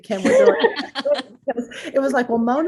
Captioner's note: laugh